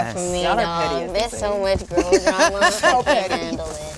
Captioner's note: Regina laughs